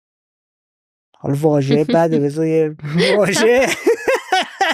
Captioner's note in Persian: خنده